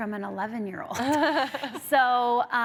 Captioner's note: laughs